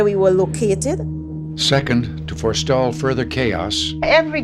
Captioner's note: soundbite of archived recording